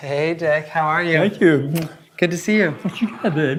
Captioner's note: kisses